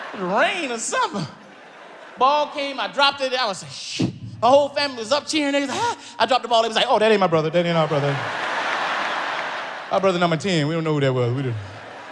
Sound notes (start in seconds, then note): 7.4 audience laughs